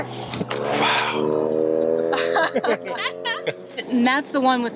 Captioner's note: laughing